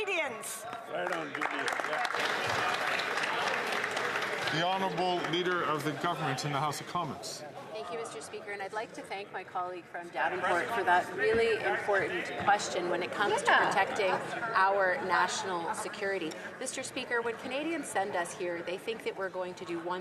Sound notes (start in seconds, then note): 6.5 some Applause